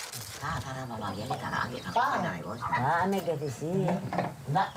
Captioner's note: Indonesian spoken audio